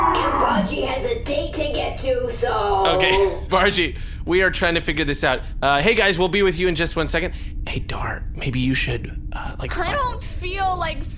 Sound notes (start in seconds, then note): 2.9 laughs slightly; 7.2 whispering; 9.1 in pain/discomfort, very loudly